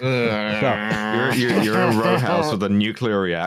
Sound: laughs through clenched teeth

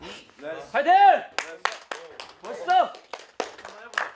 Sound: cheers on the members

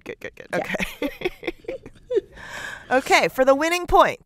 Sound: laughter

